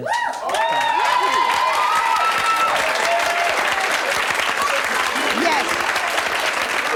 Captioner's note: audience cheering; audience applause